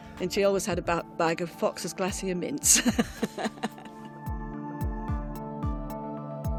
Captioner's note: laughs; gentle music continues